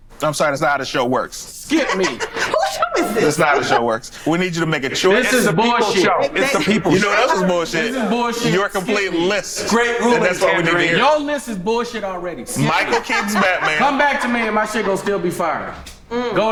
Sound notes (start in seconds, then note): 1.7 laughs; 12.6 laughs